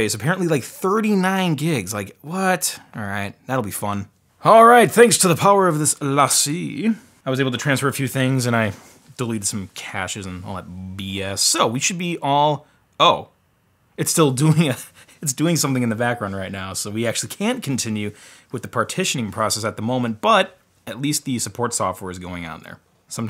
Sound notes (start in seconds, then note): 14.9 laughs